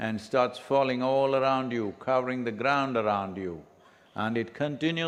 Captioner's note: none